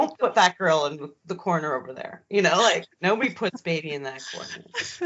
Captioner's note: both giggling